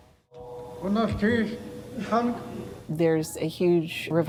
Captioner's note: speaking in Lingít